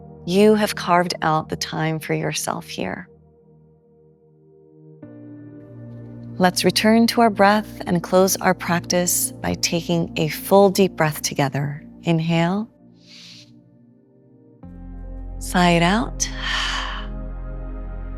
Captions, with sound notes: You have carved out the time for yourself here. Let’s return to our breath and close our practice by taking a full deep breath together. Inhale. Sigh it out. [exhales]